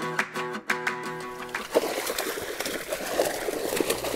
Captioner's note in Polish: Aplauz